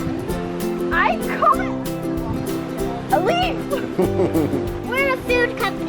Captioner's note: laughing